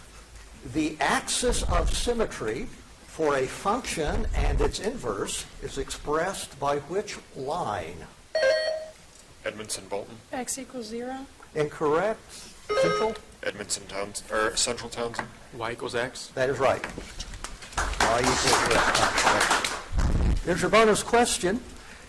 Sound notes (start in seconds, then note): 8.4 buzzer dings; 17.4 audience claps